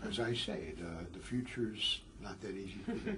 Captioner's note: laugh